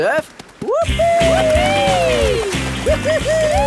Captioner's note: both whooping